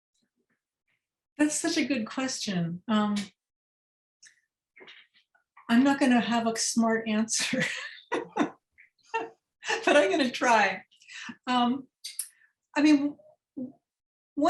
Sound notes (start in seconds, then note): 7.4 laughter